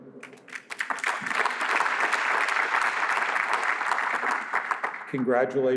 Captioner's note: applause